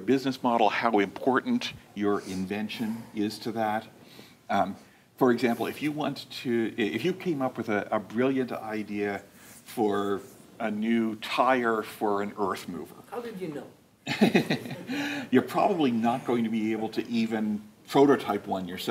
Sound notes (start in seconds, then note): 14.1 laughing